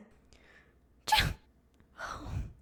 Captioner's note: sneeze!